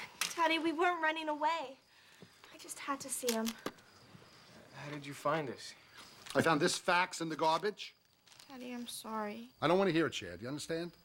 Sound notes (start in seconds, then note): none